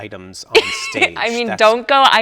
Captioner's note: laughs